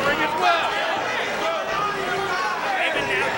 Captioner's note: crowd vocalizing